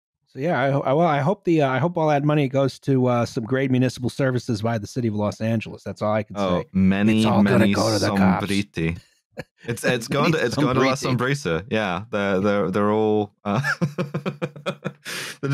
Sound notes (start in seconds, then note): 8.2 raspy whisper; 9.4 laughing; 12.1 chuckles